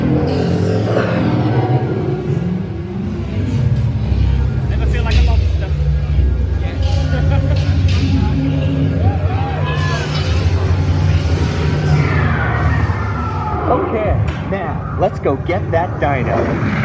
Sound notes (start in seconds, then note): 6.8 laughs